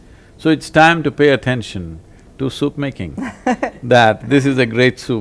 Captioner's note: interviewer laughs